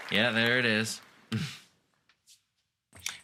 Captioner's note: chuckling